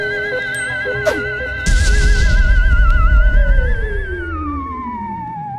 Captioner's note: scary sounds; explosion; scary sounds